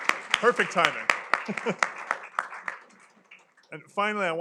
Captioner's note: laughs